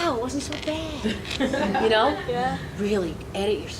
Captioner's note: audience laughing